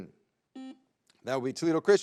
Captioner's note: buzzer beeps